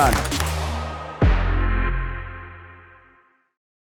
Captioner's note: audience applauds